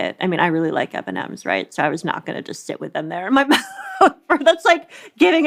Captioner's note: laughs